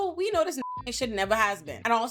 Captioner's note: beep